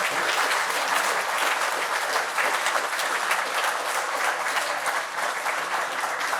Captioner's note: clapping